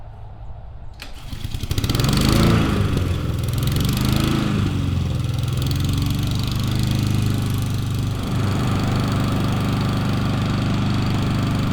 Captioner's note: lawn mower engine sputters and runs